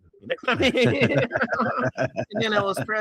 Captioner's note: laughing